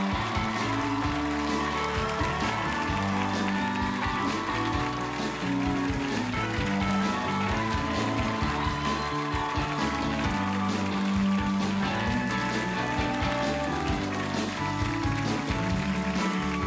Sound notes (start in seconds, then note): 0.6 cheers and applause